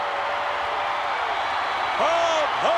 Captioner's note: crowd cheers